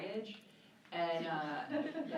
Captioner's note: laughing